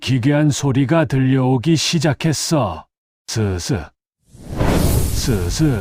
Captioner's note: swish, swish